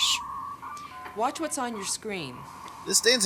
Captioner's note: modem connection noise